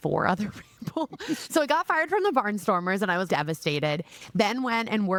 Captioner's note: laughing